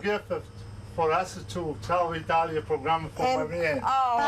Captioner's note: speaking Italian